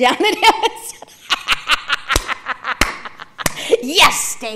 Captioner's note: laughing